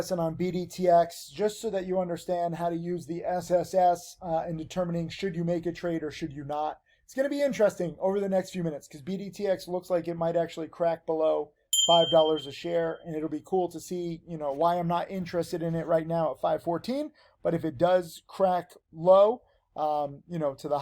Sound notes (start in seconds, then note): 11.7 bell rings